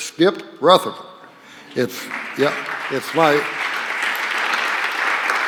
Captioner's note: applause